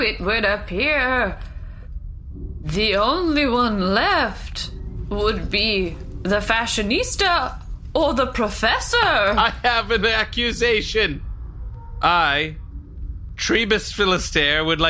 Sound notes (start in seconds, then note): 9.6 laughing